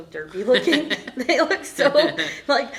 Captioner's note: laughter